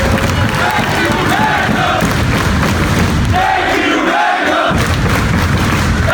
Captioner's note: clapping